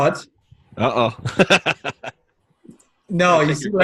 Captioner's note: chuckles